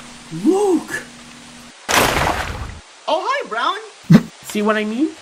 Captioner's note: none